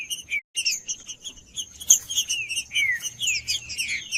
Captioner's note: trinca ferro cantando